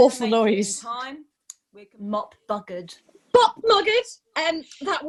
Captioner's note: Sketch audio plays